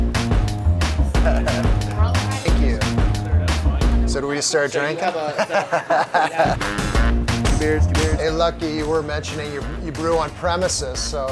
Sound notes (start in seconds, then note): 4.7 chuckling